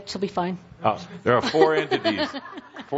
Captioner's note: giggles